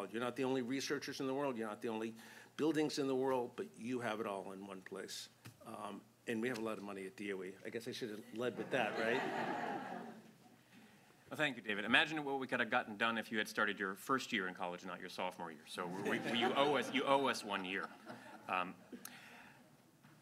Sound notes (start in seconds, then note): 8.6 laughter